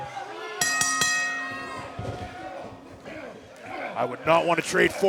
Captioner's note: bell ringing